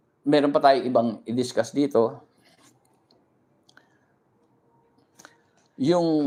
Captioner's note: none